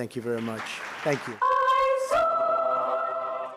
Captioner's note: applause